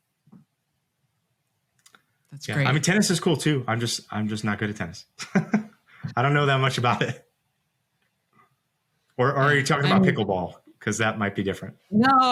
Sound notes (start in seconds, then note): 5.1 laughs